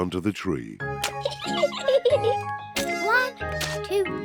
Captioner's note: giggles